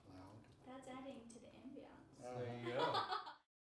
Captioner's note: laughing